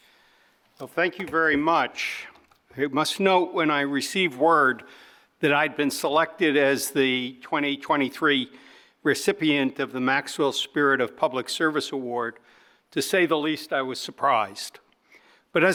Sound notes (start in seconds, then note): none